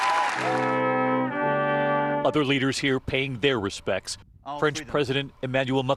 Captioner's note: applause